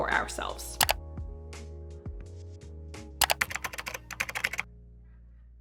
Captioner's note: computer keyboard typing